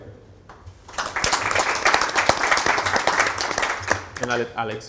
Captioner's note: applause